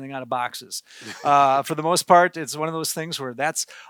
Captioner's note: laughs